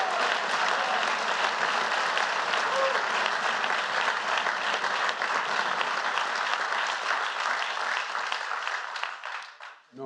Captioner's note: applause